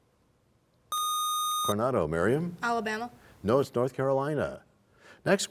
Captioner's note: none